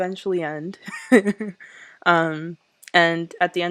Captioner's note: laughs